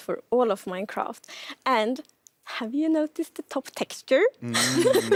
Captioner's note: laughs